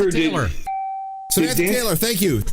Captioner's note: dinging